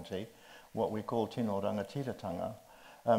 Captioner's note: speaks in Māori